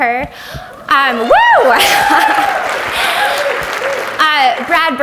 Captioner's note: audience applauds